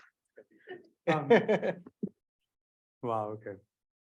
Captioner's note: panelists laughing